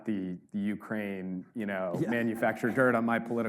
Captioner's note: audience laughs